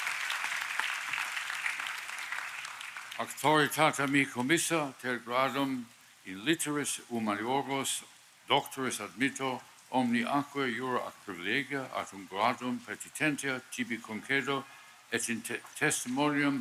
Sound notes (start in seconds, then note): 0.0 applause; 5.8 speaking Latin